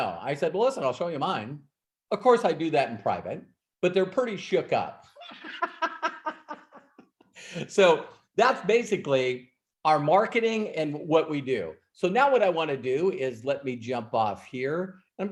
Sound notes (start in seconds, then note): 5.2 laughing